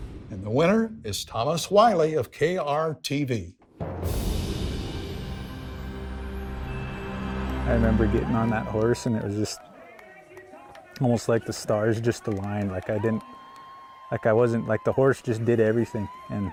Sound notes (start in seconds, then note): 3.9 soft music; 4.1 wind whooshing